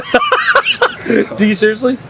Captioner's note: laughs